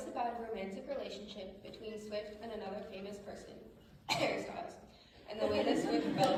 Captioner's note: cough